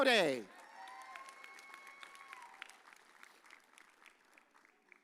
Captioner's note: audience cheers